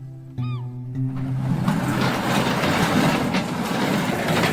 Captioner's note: gulls squawking; shop door opening